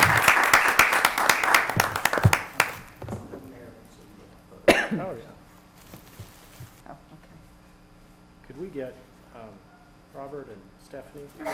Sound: applause

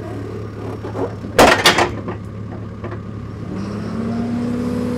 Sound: log clatters; equipment rumbles

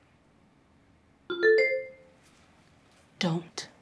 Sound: electronic notification pings

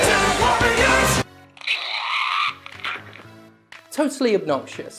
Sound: Rude Ralph Noises

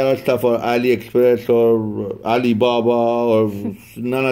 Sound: laughs

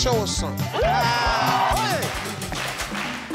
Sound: crowd cheering; salsa music

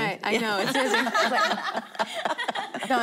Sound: laughing

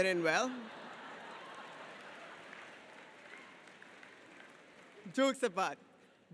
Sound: audience laughs and applauds

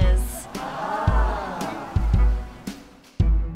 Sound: crowd

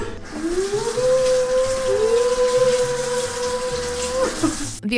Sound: woooing continues

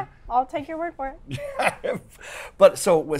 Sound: laughs

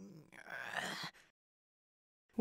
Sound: pinkie groans

